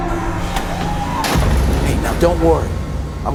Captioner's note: metal clanks